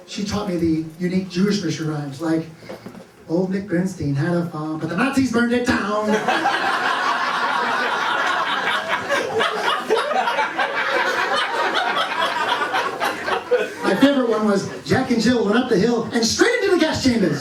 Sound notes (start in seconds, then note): 6.0 laughter